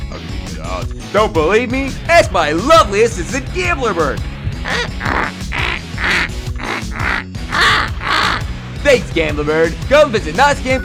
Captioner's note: bird noises